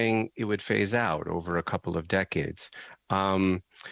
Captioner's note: speaking French